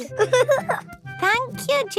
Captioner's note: giggling